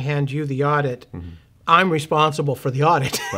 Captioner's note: laughing